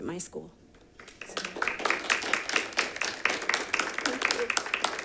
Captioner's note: audience claps